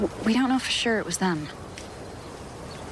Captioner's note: fire crackling